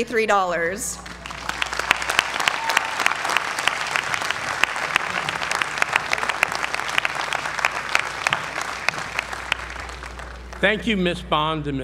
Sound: applause

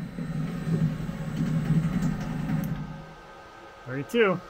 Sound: engine running

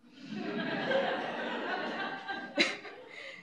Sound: audience laughs

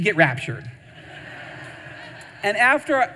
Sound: audience laughing

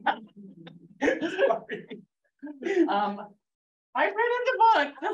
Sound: laughs

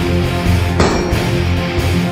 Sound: bonk

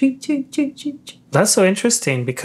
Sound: speaking foreign language

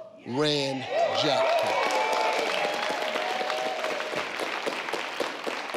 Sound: audience applauding

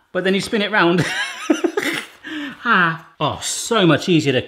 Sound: laughs

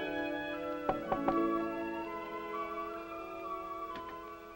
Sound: door knocking

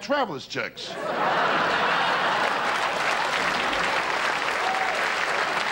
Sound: audience laughter

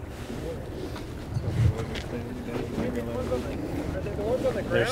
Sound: indistinct chatter

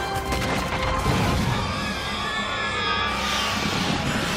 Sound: screeching

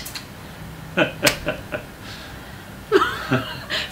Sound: laughs

